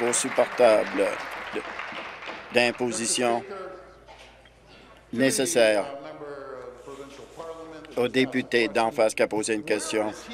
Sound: applause

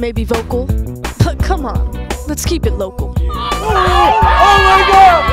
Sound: yelling and cheering

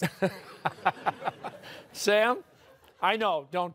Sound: laughter

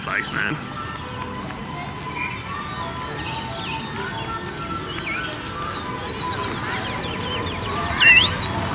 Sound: birds chirping

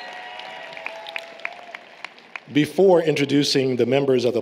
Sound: applause, Cheering

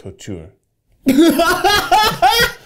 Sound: Zach laughs

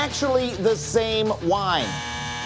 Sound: buzzer

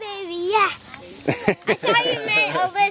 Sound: laughs

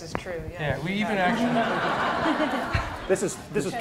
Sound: laughter

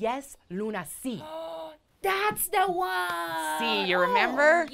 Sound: gasps

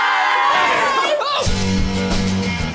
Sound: yelps; rock music

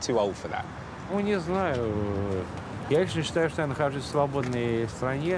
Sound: speaking in foreign language

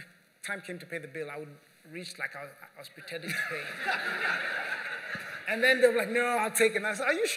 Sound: laughter

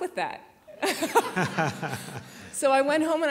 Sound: laughter

